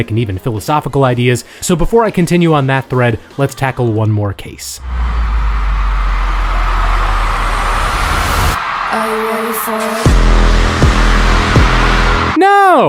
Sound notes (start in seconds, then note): 4.8 audience cheering; 10.3 dramatic music